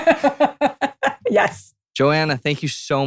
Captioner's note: laughs